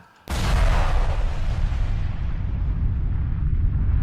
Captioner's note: explosive bang